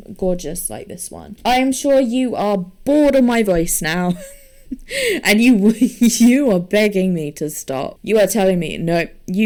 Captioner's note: laughs